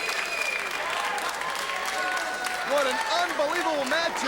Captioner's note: crowd cheering